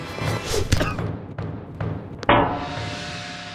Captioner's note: skateboard thudding